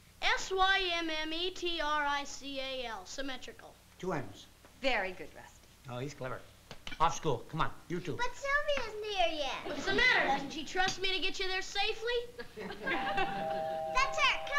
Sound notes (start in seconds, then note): 12.9 doorbell ringing